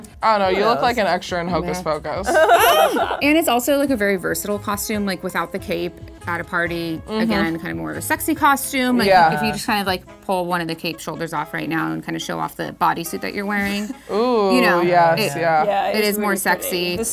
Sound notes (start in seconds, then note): 2.2 laughter